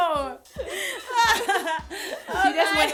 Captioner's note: laughter